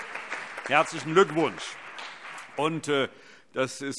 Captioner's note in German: Allgemeiner Beifall